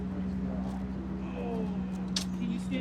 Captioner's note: groan